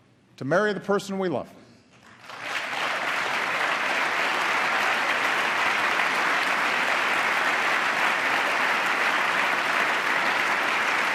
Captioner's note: applause